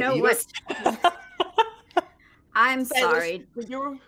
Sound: laughing

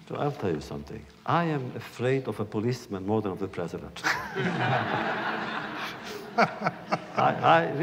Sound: laughter

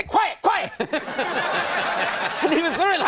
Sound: laughs

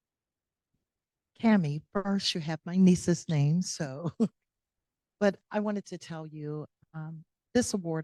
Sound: chuckle

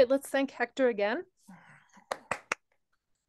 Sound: applause

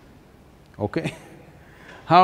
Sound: laughs

